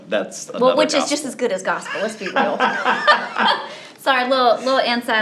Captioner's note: both laughs